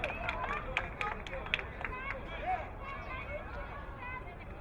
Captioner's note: crowd applauding